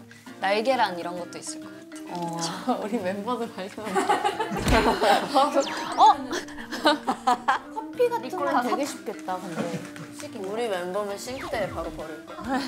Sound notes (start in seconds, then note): 4.6 splat